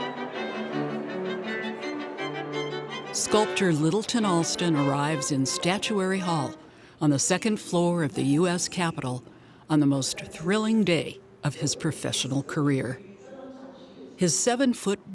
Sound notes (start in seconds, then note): 14.2 announcer chatting